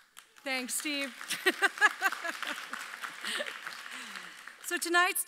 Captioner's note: audience applauds